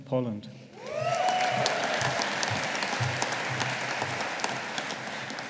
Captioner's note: audience applauding